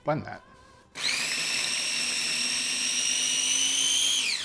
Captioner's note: blender whirring